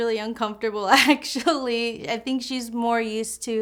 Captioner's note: chuckles